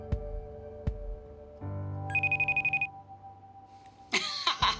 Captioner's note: computer beeps